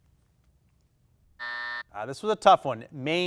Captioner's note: timer buzzes